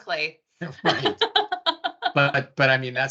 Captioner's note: laughing